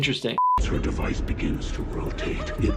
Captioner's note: voiceover